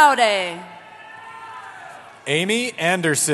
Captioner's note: cheering